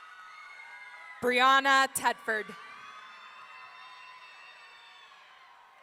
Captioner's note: audience cheering